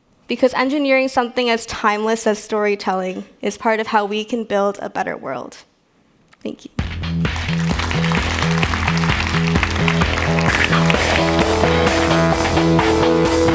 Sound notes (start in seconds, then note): 6.8 audience applauds; 10.4 upbeat music